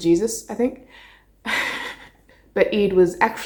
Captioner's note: laughing